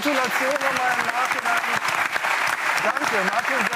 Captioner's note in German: Applaus